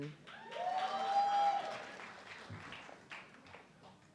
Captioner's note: audience clapping